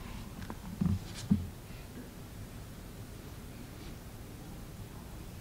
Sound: none

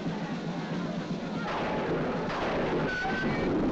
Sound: mob clamoring; drum roll; thunder claps; metallic screech & slam

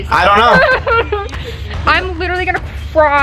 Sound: whining

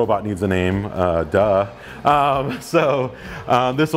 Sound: laughing

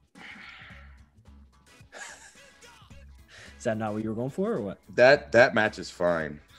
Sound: laugh

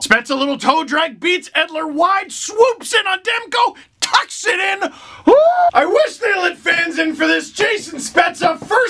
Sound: scream

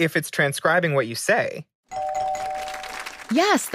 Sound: SOT: bell ding, ding, ding

